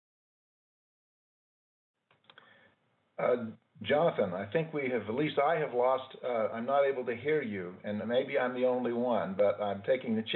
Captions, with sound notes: (Audio lost) . ≫ GOVERNOR MIKE LEAVITT: